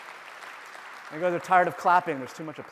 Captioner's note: applause